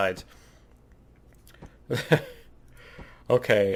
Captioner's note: laughs